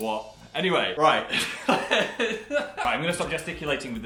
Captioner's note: ba dum ch; they both laugh